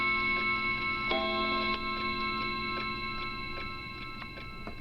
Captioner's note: clock chiming continues